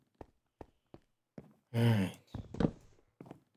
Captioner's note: sigh